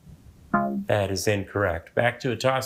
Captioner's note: womp chimes